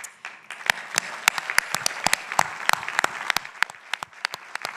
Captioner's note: people applauding